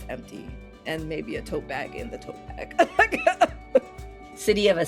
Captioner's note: laughing